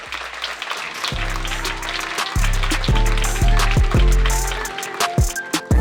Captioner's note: applause